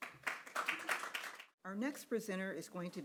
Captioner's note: audience applauding